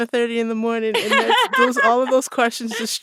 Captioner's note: laughter